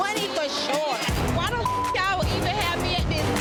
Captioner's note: beep